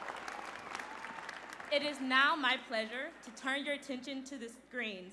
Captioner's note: applause